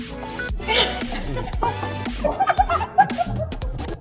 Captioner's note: laughing